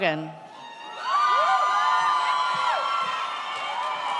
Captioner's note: audience cheers